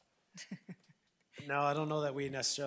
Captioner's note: person laughing